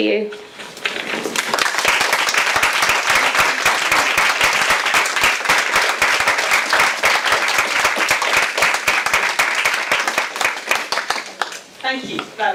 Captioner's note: audience applause